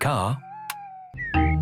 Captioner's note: car lights click off